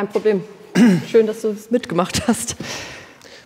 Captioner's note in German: Räuspern